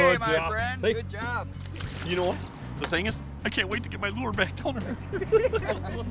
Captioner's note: laughing